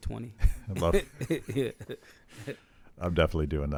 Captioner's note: laughs